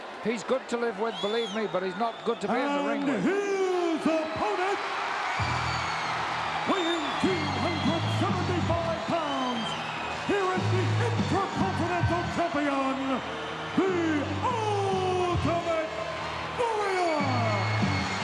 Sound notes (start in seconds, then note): 5.1 crowd cheering; 5.1 frenetic music